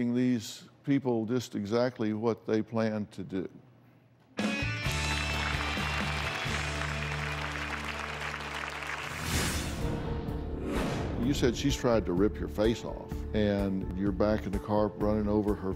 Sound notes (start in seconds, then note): 7.7 applause